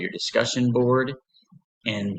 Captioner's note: pause